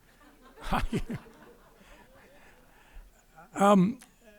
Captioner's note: crowd laughing